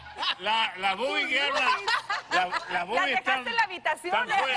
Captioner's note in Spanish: Carcajadas